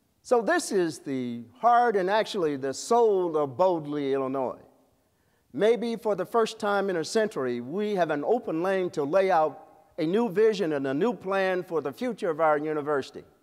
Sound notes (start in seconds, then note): none